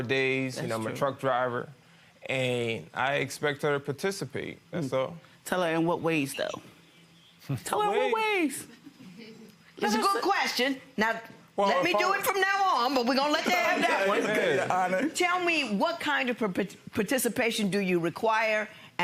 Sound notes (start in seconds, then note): 9.2 audience chuckling